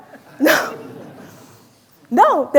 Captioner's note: audience chuckling